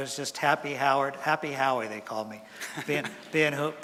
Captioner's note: chuckles from audience